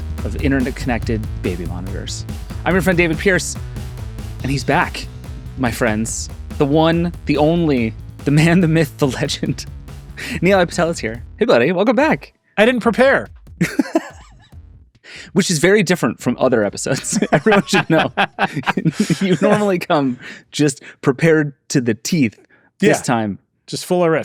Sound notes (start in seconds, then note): 13.6 laughs; 18.8 laughing